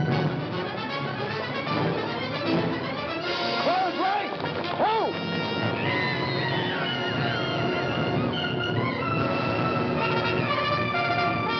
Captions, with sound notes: FORWARD RANK, HO! [SHOUTING WAR CRIES] [BUGLE PLAYS]